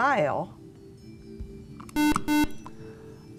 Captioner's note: buzzer